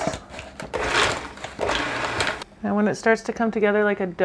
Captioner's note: machine whirs